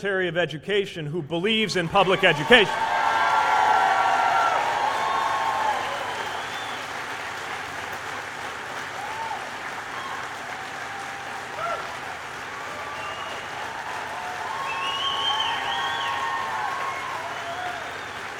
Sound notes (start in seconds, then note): 6.6 cheers